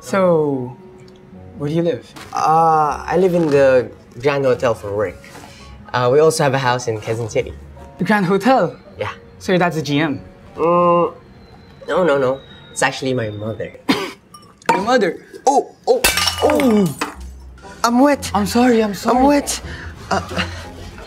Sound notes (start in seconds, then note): 13.8 cough